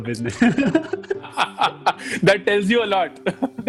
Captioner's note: laughing